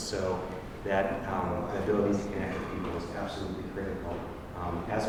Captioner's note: none